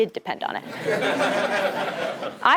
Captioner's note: laugh